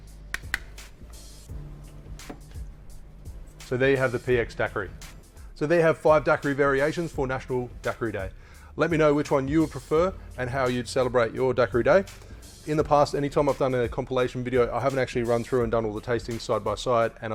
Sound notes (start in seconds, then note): 0.6 knocks grater